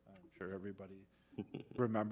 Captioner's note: laughter